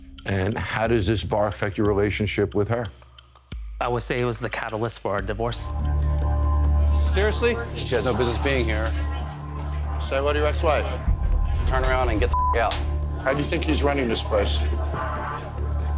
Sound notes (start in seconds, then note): 6.0 intense music; 12.3 beep